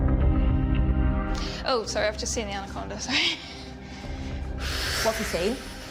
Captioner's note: deep breathing